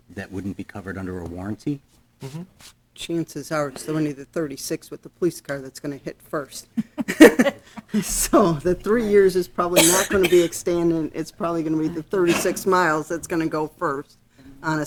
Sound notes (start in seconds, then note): 7.1 laughing